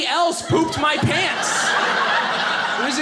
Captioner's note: audience laughing